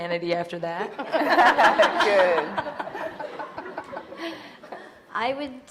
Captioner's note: audience loudly laughing